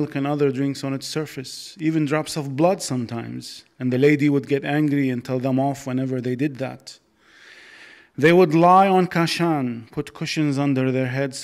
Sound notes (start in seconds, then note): none